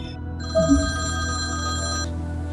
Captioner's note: telephone ringing